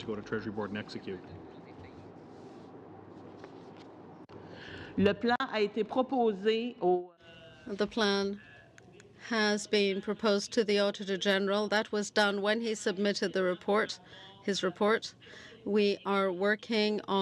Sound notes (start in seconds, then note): 12.6 speaking French